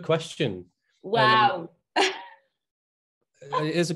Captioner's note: chuckles